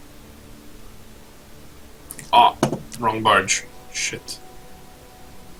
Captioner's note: none